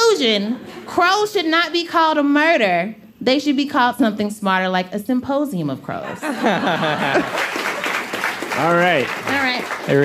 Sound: applause

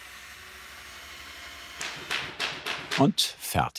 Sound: rhythmic stapling

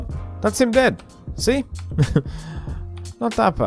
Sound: chuckle

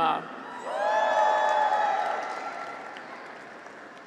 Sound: graduates cheer

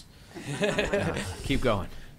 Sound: laughter

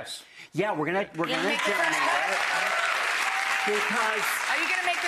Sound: audience cheering

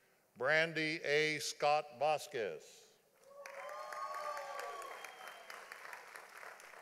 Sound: audience applauding

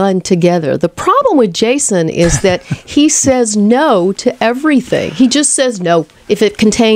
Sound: LEWIS laughs

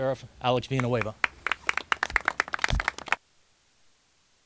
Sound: applauding

